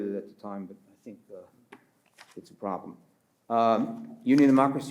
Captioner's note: page rifles